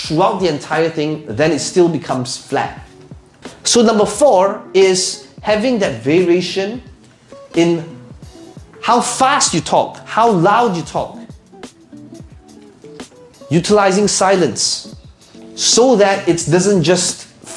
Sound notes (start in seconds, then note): none